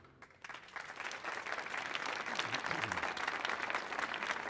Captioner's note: audience clapping